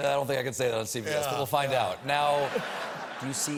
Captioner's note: laughter